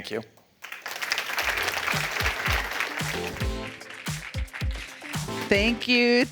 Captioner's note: applause